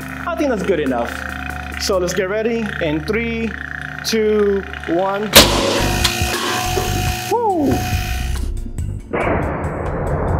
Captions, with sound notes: I think that's good enough. So let's get ready in... Three, two, one! [cannon fires] Whoo!